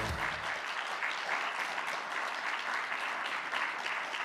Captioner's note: audience clapping